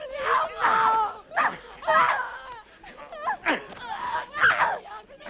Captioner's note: captive grunting